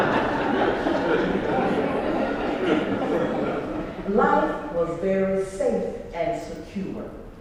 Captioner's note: laugh